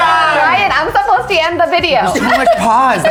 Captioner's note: laughs